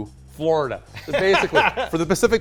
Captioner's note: chuckles